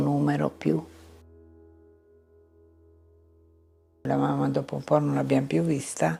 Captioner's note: speaking in foreign language